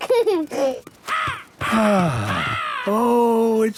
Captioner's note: giggling; gull squawking; sighing